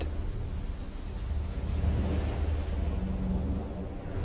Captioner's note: waves crashing